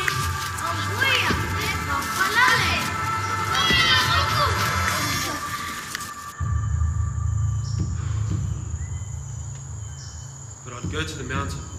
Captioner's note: non-english speech